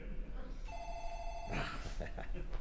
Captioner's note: phone rings